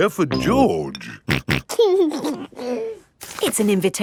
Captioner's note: snorting and giggling